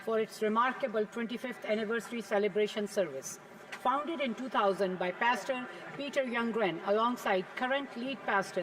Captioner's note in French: voix de l'interprète